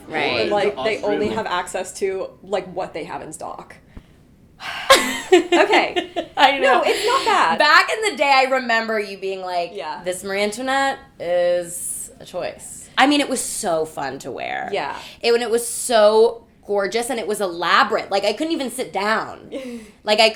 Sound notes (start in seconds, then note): 4.6 sighing; 4.6 Lilla laughing